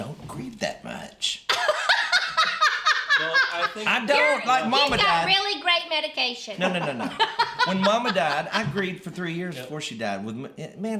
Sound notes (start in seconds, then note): 1.6 laughing